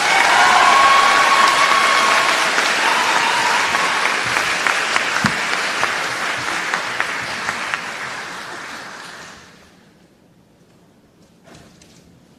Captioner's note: applause